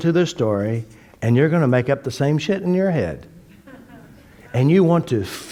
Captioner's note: laughter